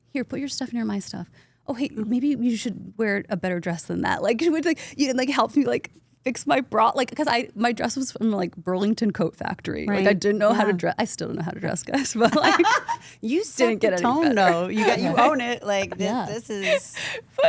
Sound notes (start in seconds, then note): 13.6 Steph laughs